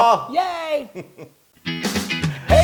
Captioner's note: laugh